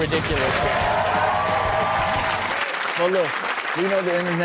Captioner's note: audience claps and cheers